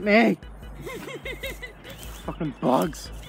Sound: laughs

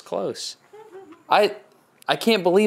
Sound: laughs

